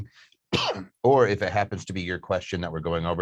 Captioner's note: coughs